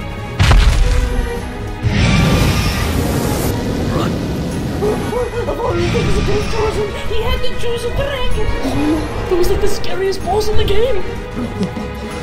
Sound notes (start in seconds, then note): 0.4 stomp; 1.7 roaring